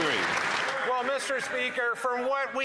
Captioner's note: applause